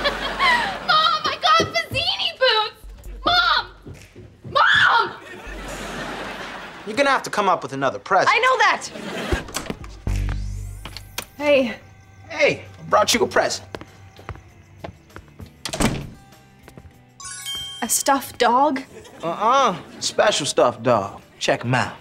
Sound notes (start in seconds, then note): 15.6 door closing